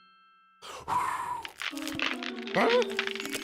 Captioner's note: ice crunching; blows